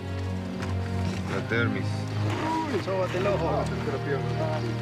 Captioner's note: Spanish language